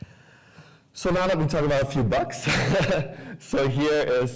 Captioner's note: laughs